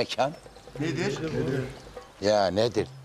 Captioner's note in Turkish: Hepsi bir ağızdan